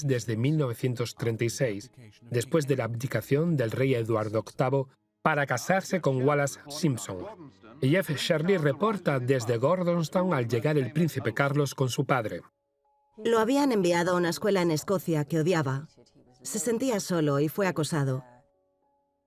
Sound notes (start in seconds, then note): 5.5 voiceover